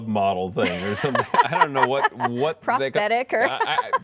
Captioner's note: laughter